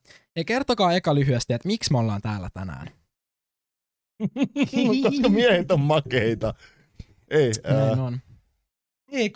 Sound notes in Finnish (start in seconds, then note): 4.2 nauraa